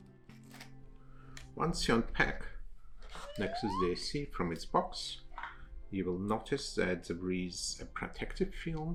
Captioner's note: whistle sound effect